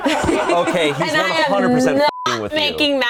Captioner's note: everyone laughs; beep